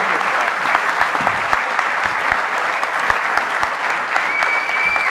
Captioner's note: audience applauding